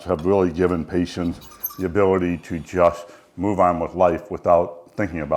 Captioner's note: fork scratching on plate